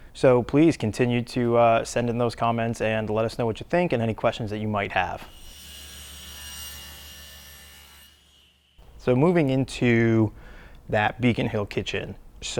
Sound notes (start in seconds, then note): 5.2 saw buzzing